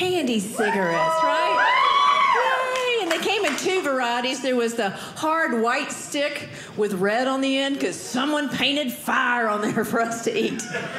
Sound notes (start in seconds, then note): 0.6 audience cheering